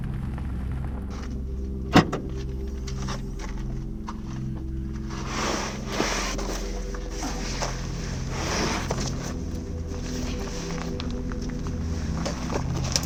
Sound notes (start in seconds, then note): 0.0 truck sounds on road; 0.0 ♫ Eerie music plays ♫; 1.9 door closes; 1.9 bags moving out of car; 1.9 ♫ Eerie music plays ♫